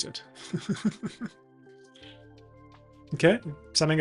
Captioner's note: laughs